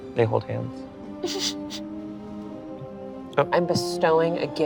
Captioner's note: laughs